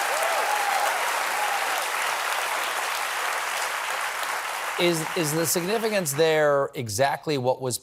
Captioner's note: cheers and applause